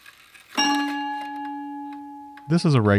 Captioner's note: clock ringing